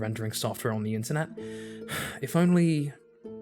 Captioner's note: sigh